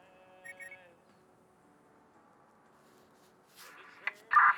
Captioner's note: radar beeping